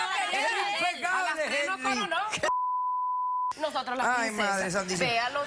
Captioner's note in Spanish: Bip